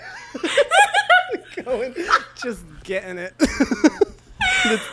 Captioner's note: both laugh